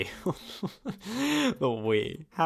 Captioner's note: laughing